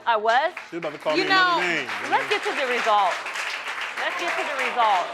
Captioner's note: crowd laughing and clapping